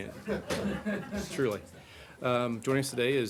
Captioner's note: laughter